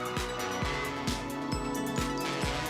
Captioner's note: crowd cheering